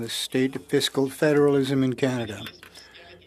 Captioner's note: speaking French